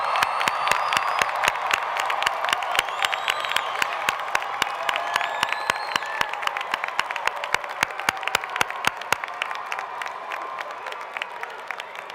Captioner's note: applause